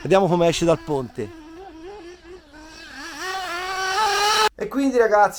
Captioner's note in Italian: engine sound